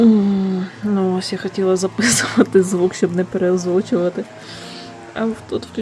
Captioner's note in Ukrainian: шум косарки з вулиці